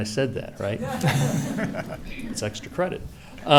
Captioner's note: laughing